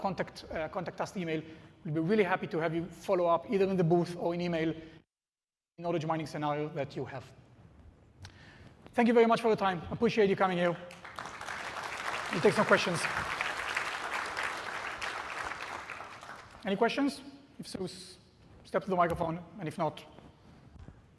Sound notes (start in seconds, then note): 10.8 applause